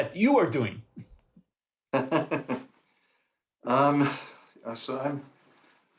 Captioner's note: laughter